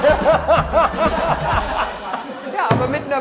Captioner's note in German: Gelächter vom Band